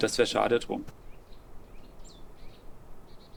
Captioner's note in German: Vogelgezwitscher